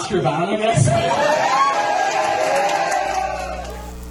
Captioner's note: crowd Cheering